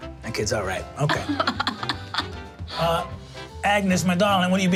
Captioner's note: laughing